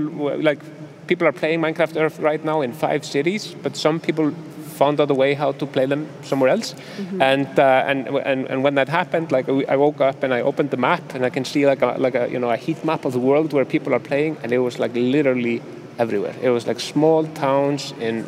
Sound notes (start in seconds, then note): none